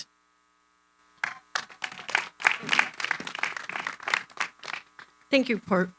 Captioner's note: applause